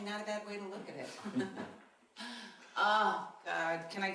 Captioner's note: laughing